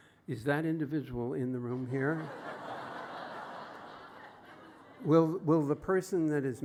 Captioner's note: laughter